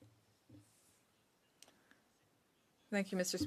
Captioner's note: speaking French